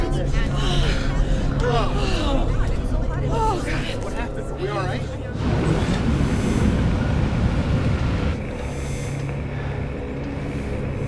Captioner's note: breathing hard